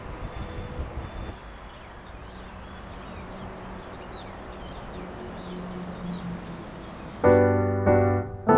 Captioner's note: pure nature sounds